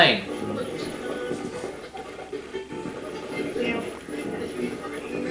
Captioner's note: radio channel changing